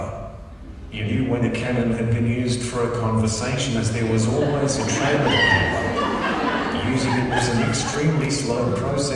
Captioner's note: audience laughter